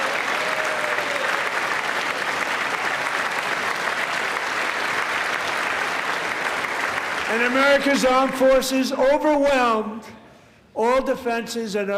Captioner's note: applause